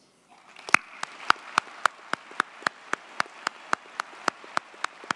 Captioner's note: audience cheers and applauds